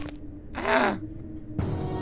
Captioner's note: Gaylord_Steambath lets out an exasperated noise